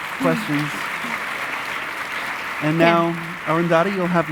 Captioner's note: audience applauding